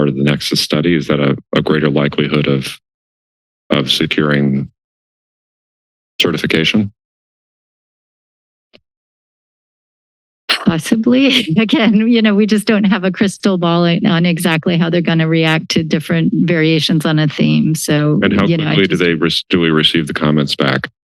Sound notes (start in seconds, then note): 10.6 laugh